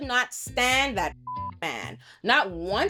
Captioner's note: beep